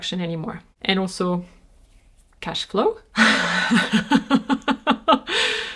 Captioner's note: laughs